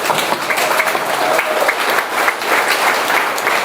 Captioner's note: audience applauds; audience cheers